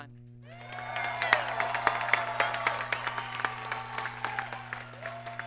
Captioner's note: audience applauds and cheers